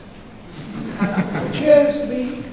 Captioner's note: audience laughing